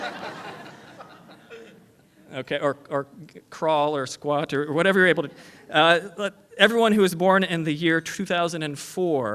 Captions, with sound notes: [ LAUGHTER ] OK OR CRAWL OR SQUAT OR WHATEVER YOU'RE--